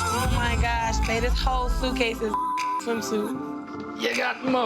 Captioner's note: beeps